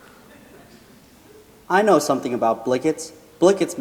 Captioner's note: laughing